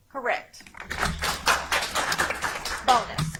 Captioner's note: audience applauds